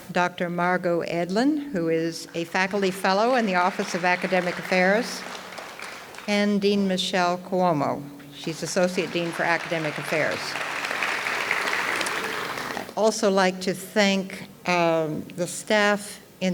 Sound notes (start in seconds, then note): 5.3 audience clapping; 10.4 audience applauds